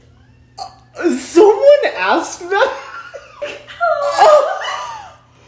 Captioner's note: laughs